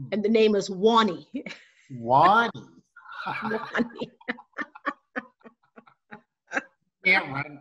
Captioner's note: laughter